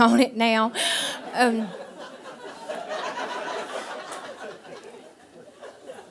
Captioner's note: audience laughing